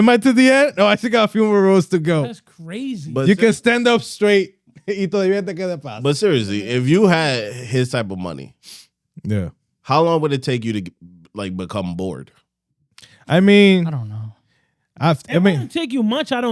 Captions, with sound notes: No, I think I have a few more roads to go. That's crazy. But you can stand up straight. (Speaking In Foreign Language) But seriously, if you had his type of money, how long would it take you to become bored? I mean-- I don't know. I mean-- It wouldn't take you much, I